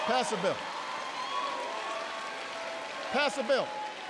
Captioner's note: applause